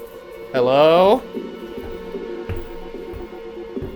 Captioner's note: footsteps pattering; eerie music